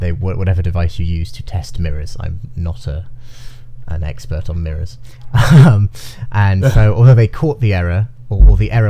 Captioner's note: both chuckle